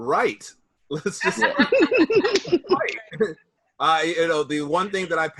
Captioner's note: all chuckling; laughs